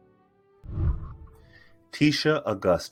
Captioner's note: whooshing